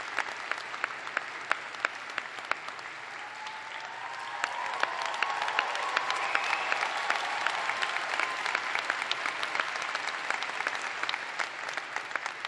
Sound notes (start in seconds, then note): 0.0 applause; 0.6 cheering